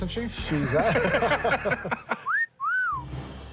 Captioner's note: laughter